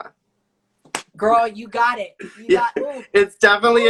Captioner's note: slaps knee